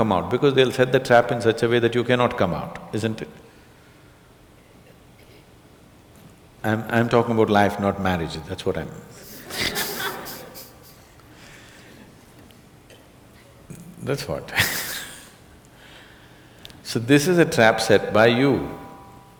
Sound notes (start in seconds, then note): 9.2 laughter; 14.4 laughs